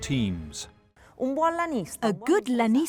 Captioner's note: speaking in foreign language